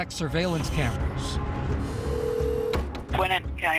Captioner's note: phone ringing